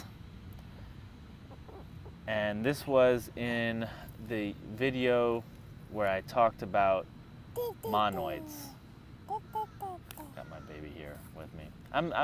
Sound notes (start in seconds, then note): 7.5 baby noises